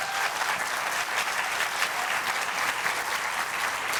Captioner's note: applause